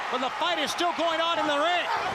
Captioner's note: crowd chatter